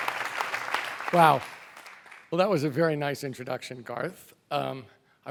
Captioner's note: applause